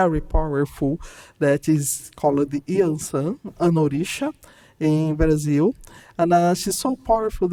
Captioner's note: speaking in Portuguese